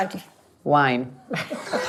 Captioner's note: laughs